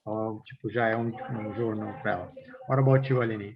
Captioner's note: non-english